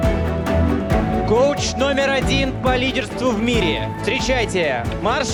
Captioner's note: speaking foreign language